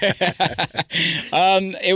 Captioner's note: laughs